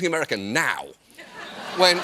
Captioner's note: laughter